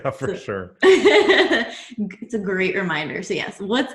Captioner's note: laughs